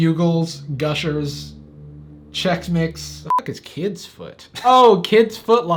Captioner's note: beep